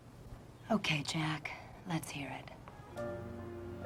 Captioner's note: pat